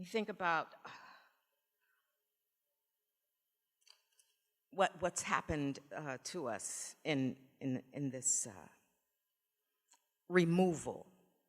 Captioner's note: sighs